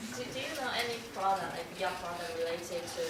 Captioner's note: voiceover